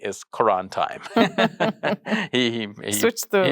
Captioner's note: both laughing